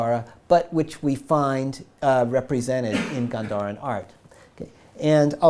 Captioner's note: audience member coughs